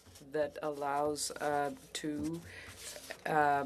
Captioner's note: speaking French